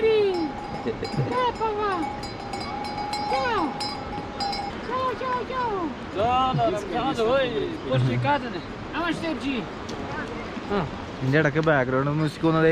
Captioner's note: cow bells